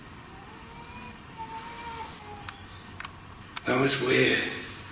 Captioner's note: child crying